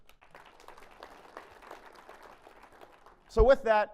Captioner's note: applause